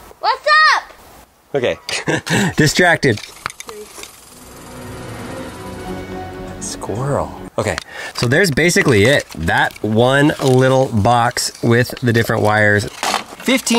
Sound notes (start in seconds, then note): 1.8 laughs; 4.1 intense music